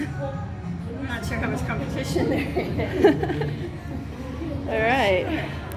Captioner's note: laughing